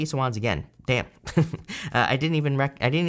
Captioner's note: laughs